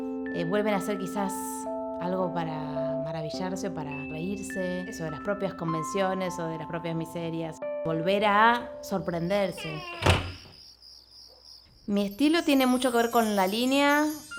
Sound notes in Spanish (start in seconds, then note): 9.7 crujido y golpe de puerta al cerrarse; 11.0 canto de grillos